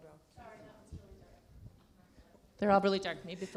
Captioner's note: murmurs